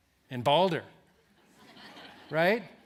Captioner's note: laughter